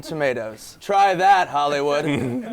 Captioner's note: laughter